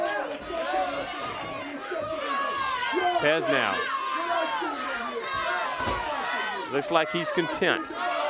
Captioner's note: crowd cheers